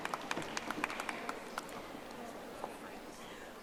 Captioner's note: audience applauding